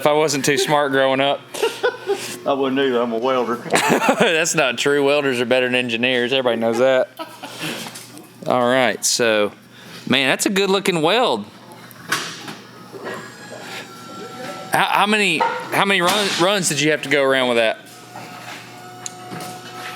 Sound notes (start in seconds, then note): 1.9 laughs loudly